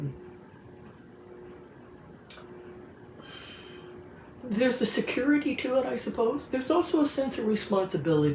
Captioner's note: sighs